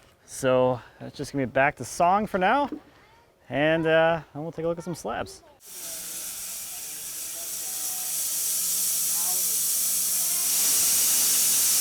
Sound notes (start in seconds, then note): 5.6 saw whirring